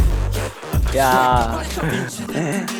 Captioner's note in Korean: 부러워 훌쩍